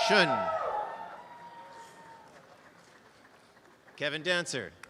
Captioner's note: applause and cheering